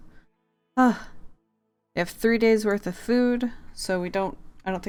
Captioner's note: relieved sigh